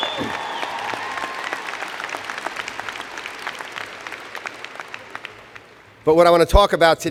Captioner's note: cheers and Applause